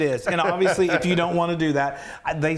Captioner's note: chuckling